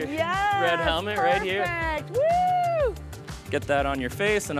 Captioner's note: cheers